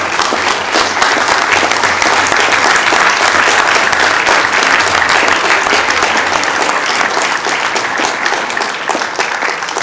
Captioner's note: applause